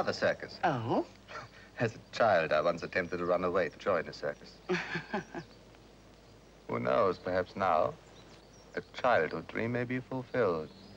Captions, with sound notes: It's her father's circus. - Oh? - (chuckles) As a child, I once attempted to run away to join a circus. (Angela chuckles) Who knows, perhaps now, a childhood dream may be fulfilled.